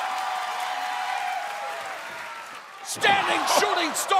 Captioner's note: crowd cheering